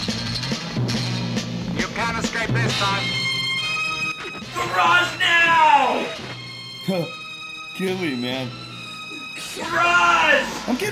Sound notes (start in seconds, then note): 3.2 action music; 7.1 chuckles